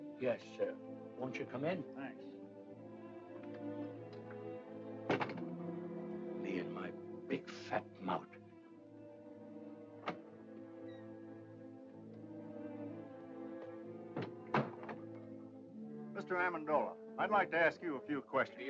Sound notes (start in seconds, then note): 3.4 ominous music; 5.0 door closes; 10.0 door clicks; 11.1 ominous music; 14.1 door closes